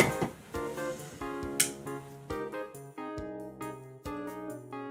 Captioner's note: light switching off